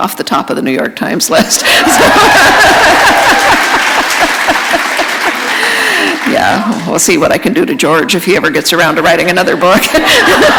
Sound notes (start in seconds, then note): 1.4 laughter; 3.4 applause; 9.6 laughter